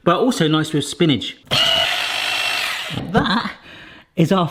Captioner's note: mixer whirs